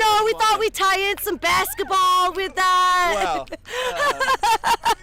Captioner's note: laughs